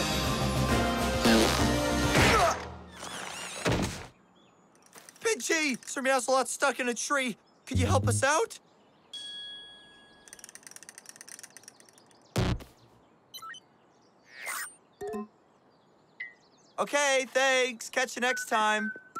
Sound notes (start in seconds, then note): 1.2 farts